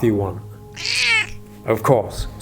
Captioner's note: charlie meows